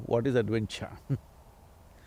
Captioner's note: laughs